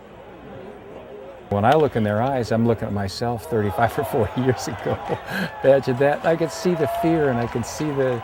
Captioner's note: laughs